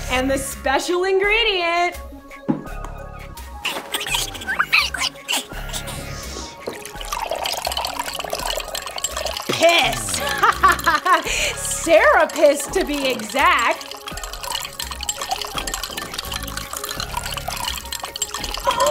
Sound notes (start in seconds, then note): 3.6 squeaking; 6.7 liquid pouring; 10.0 laughter; 14.5 liquid continues to pour